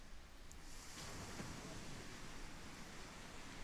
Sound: sea crashes

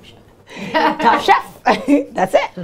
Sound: laughter

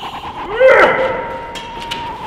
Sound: grunts

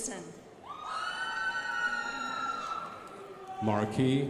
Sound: crowd applauding

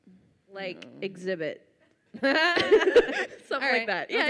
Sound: both laugh

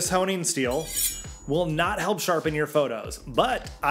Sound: knives scratching

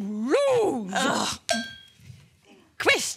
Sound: cowbell bonk

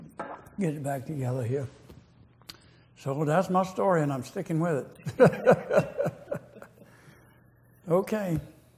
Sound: laughter

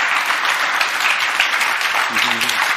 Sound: applause; cheers; applause

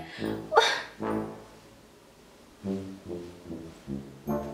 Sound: sighs in exasperation

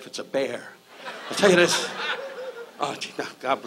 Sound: audience laughs

